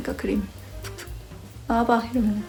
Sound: tap tap

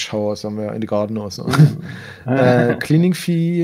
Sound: both laugh

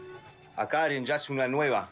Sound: Portuguese spoken audio

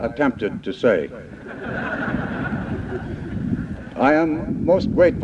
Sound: laughter

